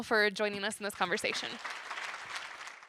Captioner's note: applause